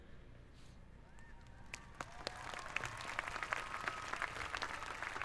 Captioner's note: applause